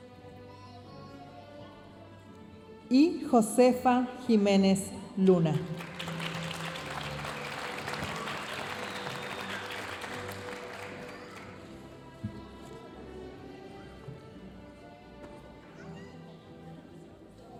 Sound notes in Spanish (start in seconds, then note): 5.5 aplausos de la audiencia; 12.4 continúa la música majestuosa suave en el fondo